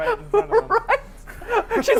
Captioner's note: laughs